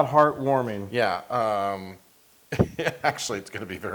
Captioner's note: laugh